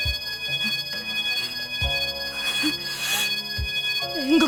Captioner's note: strained breathing